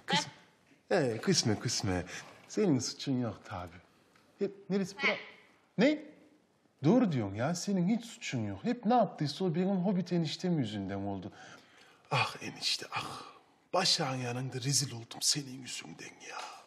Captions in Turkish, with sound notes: Hee, küsme küsme. Senin suçun yok tabii. (Papağan arada sesler çıkarır) Ne? Doğru diyorsun ya, senin hiç suçun yok. Hep ne yaptıysa o benim Hobbit eniştem yüzünden oldu. Ah enişte ah! Başak’ın yanında rezil oldum senin yüzünden ya.